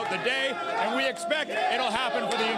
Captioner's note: applause